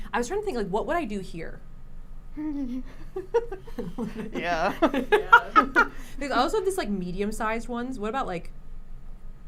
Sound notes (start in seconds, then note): 2.4 giggles